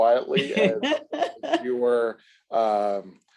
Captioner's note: laughs